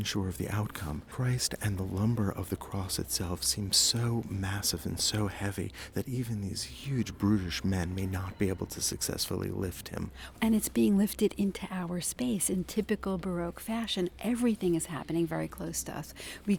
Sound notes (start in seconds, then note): 10.2 voiceover